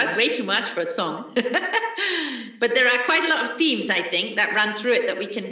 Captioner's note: laughs